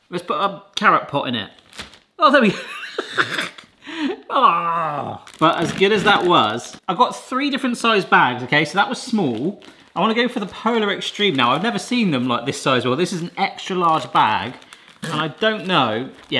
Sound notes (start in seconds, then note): 2.7 laughing